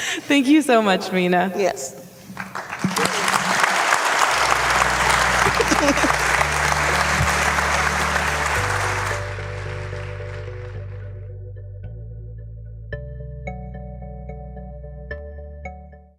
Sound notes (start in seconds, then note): 2.6 audience applauding; 4.5 peaceful music